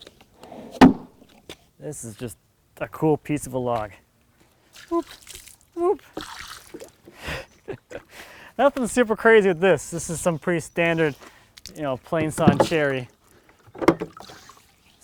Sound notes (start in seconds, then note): 5.9 water sloshing; 7.2 laughs